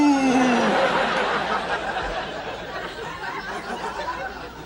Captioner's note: audience laughs